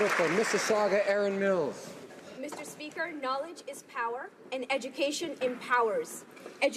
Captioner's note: applause